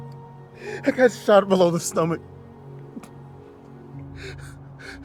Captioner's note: groans